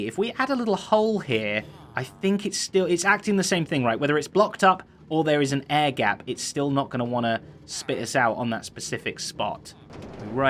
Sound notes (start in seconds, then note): none